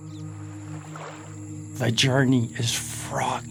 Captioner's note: water splashing